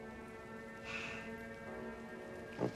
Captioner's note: sighs